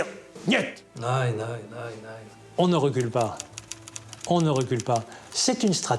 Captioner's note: speaking in foreign language